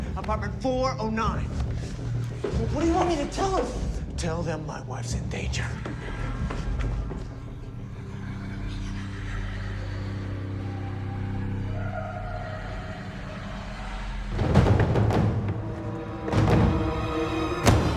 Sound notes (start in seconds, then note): 6.5 eerie music; 8.2 voices whispering and wailing; 14.7 tense dramatic music